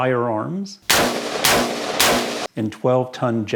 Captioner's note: gunshots